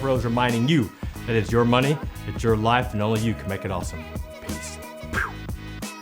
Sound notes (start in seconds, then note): 5.1 whooshing sound; 5.4 electronic music